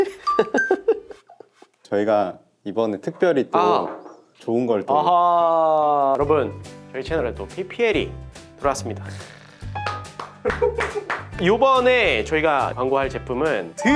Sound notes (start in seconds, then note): 9.8 applause of welcome